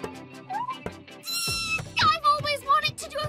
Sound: squeals

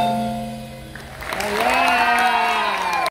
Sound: audience Clapping

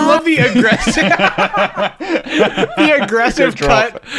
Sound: laughter

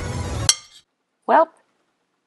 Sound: clink

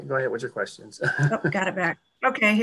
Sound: laughs

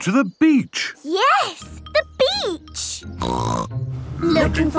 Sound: snorting

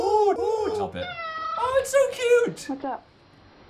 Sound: hoots; cat meows

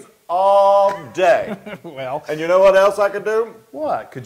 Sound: laugh

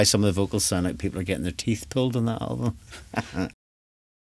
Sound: laughter

